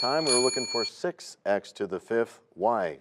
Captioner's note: bell rings, time expires